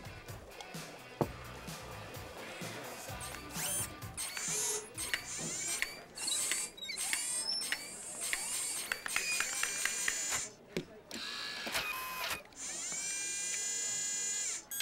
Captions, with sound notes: A LITTLE ANIMAONTI FLUID... ( electricon whirring )